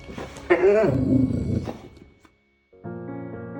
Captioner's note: dog growling